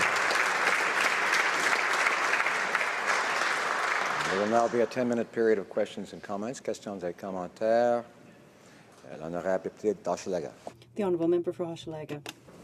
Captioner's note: some Applause